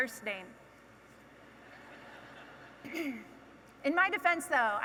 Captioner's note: audience laughing